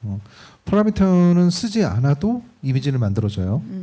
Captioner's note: speaking korean